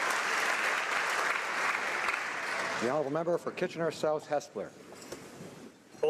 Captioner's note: applause